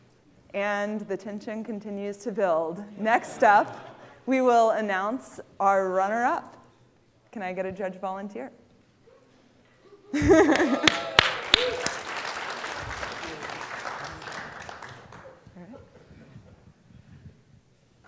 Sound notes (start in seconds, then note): 9.9 laughter; 10.4 applause